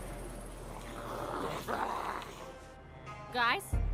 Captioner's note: zombies growling